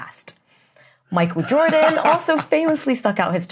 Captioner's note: belly laughs